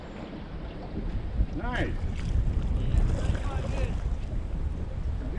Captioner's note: water lapping